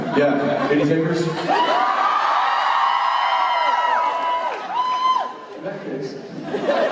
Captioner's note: cheers